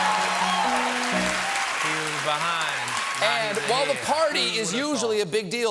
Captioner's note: cheers and applause